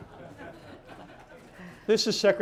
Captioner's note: laughter